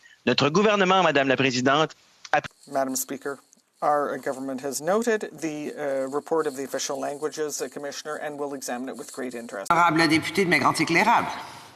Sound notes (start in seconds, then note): 6.6 speaking french